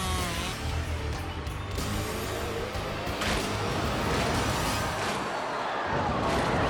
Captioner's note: bike engine buzzing; bike crashing loudly